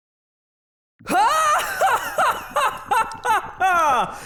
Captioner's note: Deku continues to laugh like All-Might